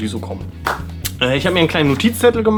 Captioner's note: clap